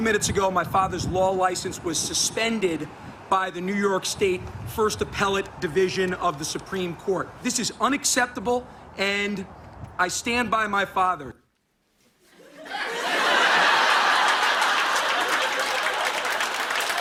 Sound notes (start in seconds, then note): 12.2 laughter; 13.2 applause